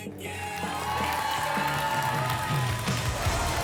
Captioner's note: applause and cheering